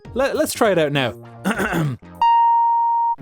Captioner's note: clears throat